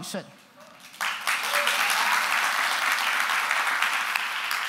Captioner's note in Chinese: 掌聲